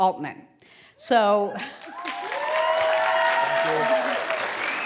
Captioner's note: applause